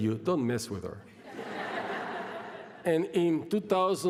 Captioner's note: laughter